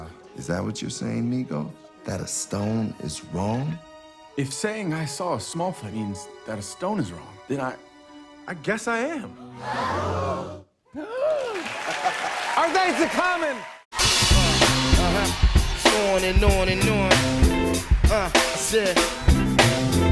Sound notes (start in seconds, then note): 9.5 all gasp; 9.5 gasps